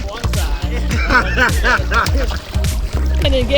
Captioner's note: speaker drowned out by laughter